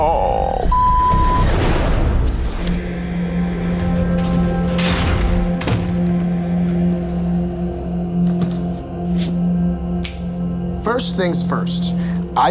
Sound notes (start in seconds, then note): 0.6 beeps; 2.7 dramatic music; 3.8 door slams